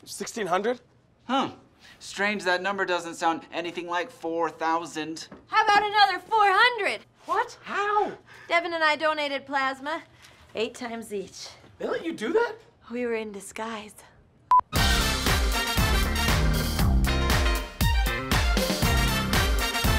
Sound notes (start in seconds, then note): 14.5 loud beep; 14.7 funky music